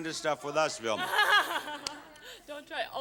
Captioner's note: laughs